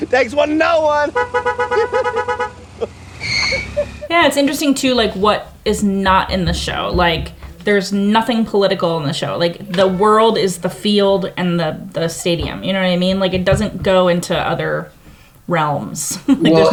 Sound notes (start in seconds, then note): 1.1 car honking; 3.3 wheels screeching